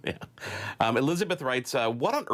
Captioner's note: laughs